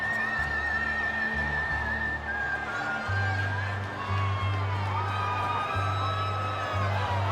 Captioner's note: audience cheering; somber Western music